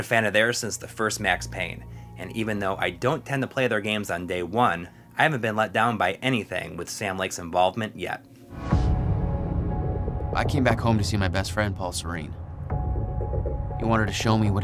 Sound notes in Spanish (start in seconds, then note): 8.5 audio del juego